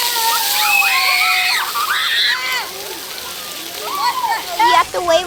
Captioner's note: water falling, screams; screams